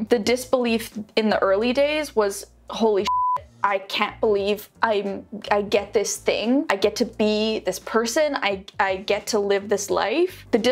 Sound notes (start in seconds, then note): 3.0 beeps